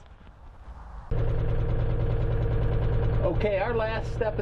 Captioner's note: engine whirs